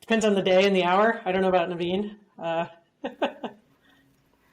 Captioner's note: laughs